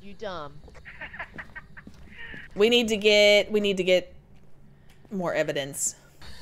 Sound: laugh

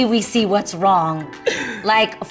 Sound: laughs

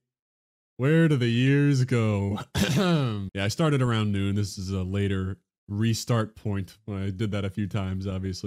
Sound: ahem

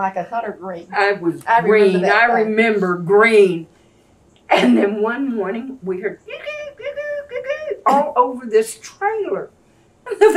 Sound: imitates a frog

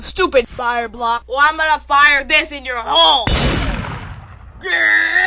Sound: intense Kick

